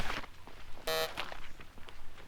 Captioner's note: error noise